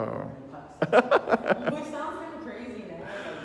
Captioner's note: laughing